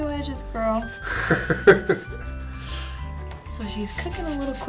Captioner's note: laughs